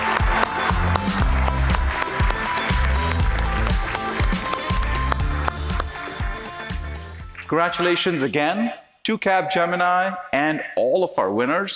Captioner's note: applause